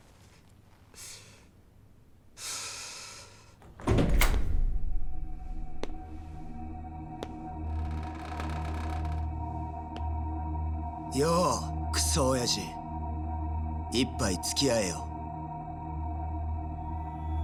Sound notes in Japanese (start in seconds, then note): 2.4 ため息